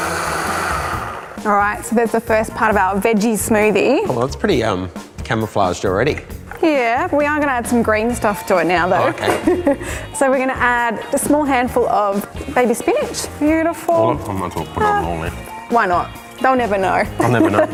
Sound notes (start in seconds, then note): 8.8 laughs